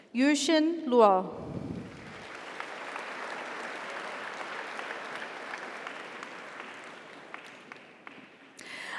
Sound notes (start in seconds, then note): 1.8 audience applauds; 2.4 audience cheers